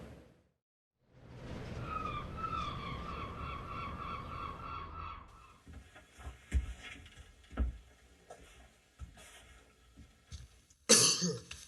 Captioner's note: cough